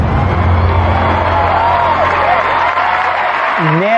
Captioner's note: cheering and applause